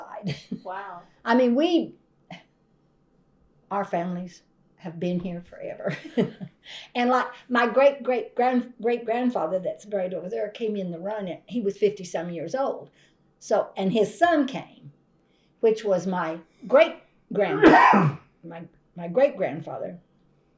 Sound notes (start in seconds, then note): 6.3 laughs